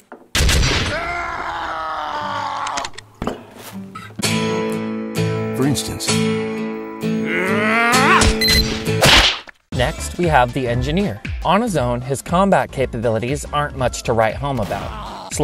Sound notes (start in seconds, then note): 0.4 gunshots, bearish screams; 7.5 grunt, then gunshot